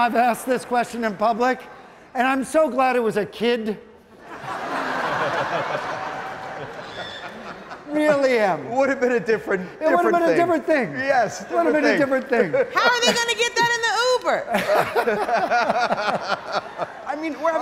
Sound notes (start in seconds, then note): 2.3 audience laughing; 14.5 audience laughing